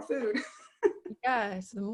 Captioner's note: laughs